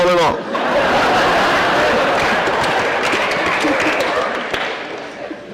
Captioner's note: laughter